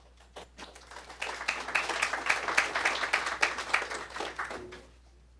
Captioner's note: applause